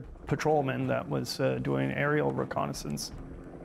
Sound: voiceover

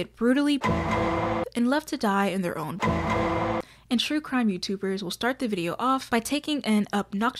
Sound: law and order sound

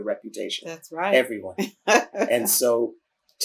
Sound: laughter

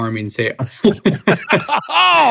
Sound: both laughing

